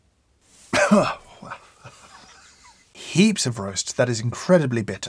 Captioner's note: coughs